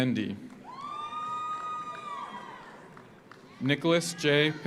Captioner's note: audience applauds; audience cheers